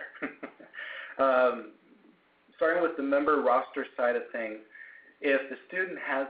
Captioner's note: laugh